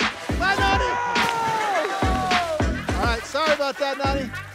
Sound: crowd cheering

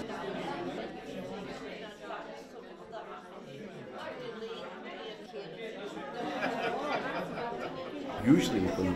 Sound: chatter

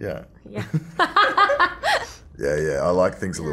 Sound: laughter

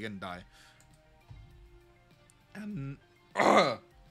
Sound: voice crack; cough

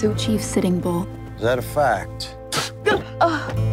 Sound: spits

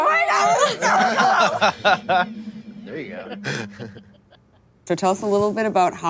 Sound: laughing

